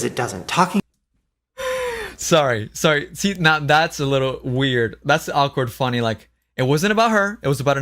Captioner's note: laughs